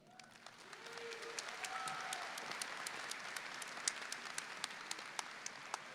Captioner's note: audience clapping and cheering